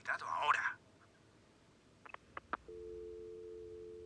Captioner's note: click, dial tone